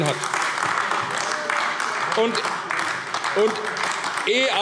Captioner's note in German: Beifall AfD